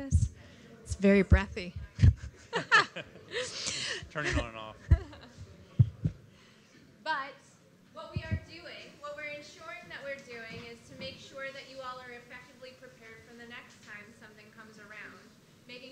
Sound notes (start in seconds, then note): 4.8 audience laughing